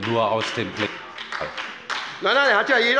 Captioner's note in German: Beifall bei Abgeordneten der SPD